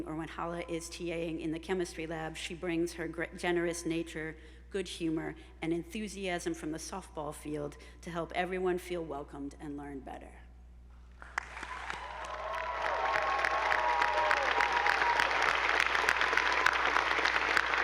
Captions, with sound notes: or when Hala is TAing in the Chemistry lab, she brings her generous nature, good humor, and enthusiasm from the softball field to help everyone feel welcomed and learn better. (attendees applauding) (audience whooping)